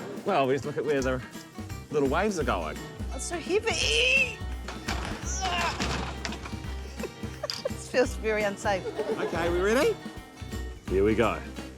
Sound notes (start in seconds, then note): 5.2 grunts; 6.8 giggles